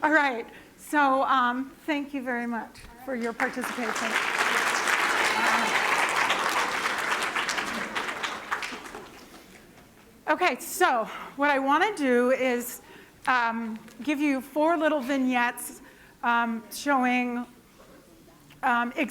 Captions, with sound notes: All right. So thank you very much for your participation. [APPLAUSE] OK. So what I want to do is give you four little vignettes showing